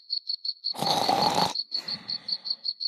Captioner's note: snoreeee